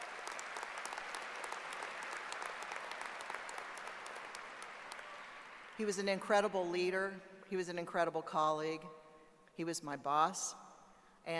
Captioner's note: applause